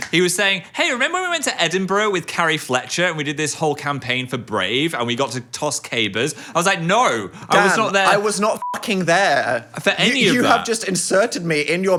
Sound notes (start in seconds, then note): 8.5 beep